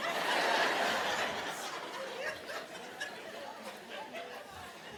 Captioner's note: audience laughing